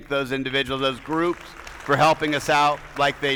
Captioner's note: attendees applauding